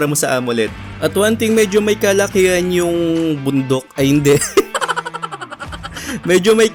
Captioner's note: laugh